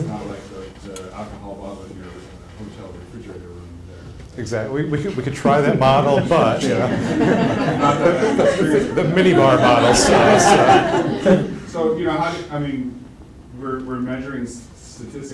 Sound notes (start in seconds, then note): 6.0 laughter